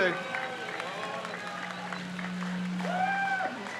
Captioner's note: crowd cheers